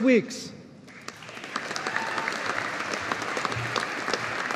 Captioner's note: audience applauding